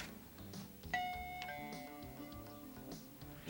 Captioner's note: music audible outside; doorbell